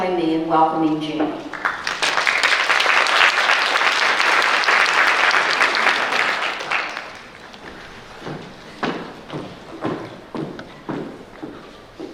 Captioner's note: applause